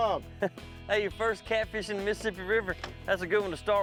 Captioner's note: chuckles